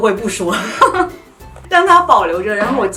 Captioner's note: hahahaha